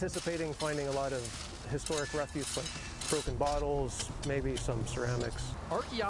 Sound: digging sounds

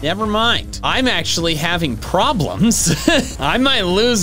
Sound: nervous laughing

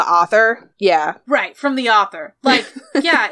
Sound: laughs

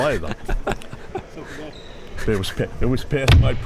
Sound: laughing

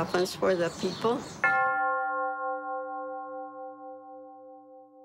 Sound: bell tolls

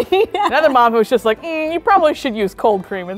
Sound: laughing

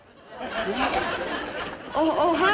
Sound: audience laughing

